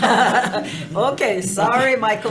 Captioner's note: all laughing